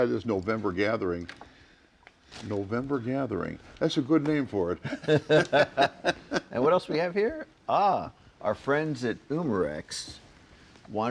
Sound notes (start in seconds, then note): 4.8 group laughs